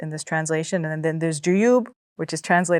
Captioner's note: speaks Arabic